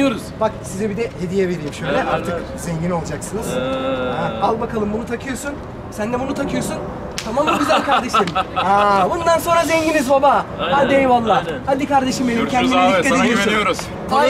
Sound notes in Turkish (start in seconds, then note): 7.3 gülüşmeler